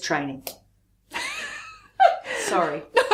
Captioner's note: laughs